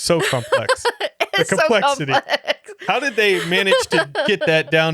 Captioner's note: laughing